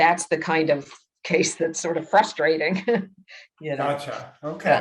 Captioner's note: laughs